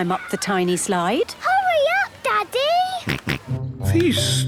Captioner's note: George snorts